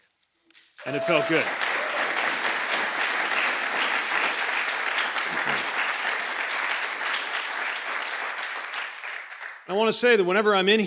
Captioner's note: applause